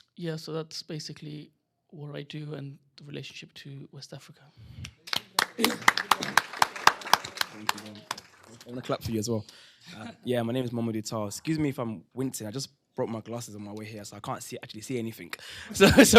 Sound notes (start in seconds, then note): 4.9 applause